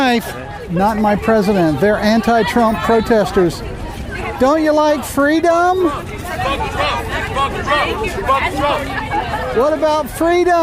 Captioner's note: crowd chanting